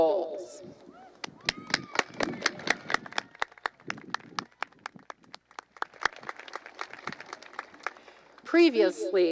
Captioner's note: applause